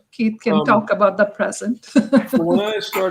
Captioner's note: laughter